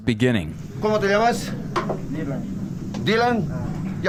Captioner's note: speaking foreign language